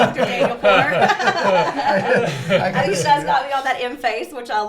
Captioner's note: everyone laughing